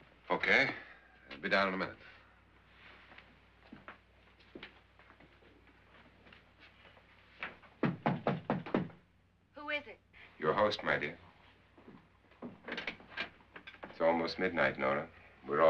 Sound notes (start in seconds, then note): 7.8 knocks on door; 12.6 door opens